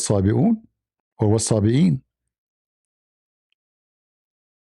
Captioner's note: Arabic